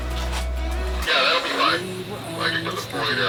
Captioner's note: man Over Radio